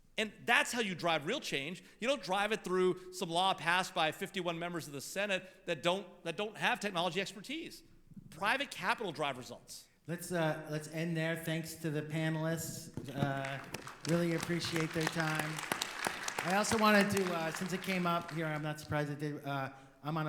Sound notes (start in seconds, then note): 15.7 audience applauding